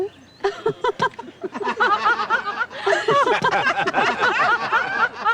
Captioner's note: everyone laughing loudly